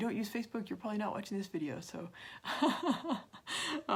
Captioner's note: laugh